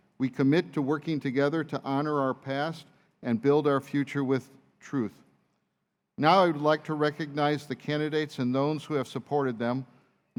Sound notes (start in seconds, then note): none